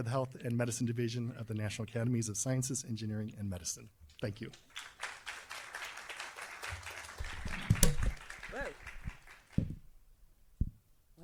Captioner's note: applause